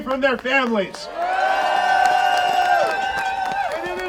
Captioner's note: audience cheering